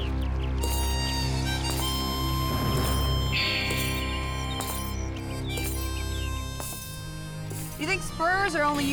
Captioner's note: spurs jangling